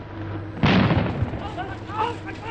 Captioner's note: explosion